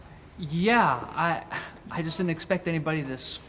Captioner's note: none